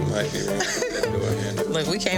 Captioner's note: woman laughing